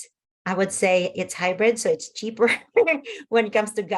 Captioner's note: laughs